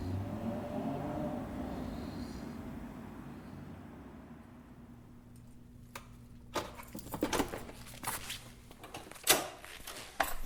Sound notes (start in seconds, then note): 0.0 engine roar in the distance; 6.9 door lock clicks open